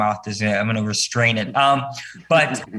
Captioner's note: panel members chuckle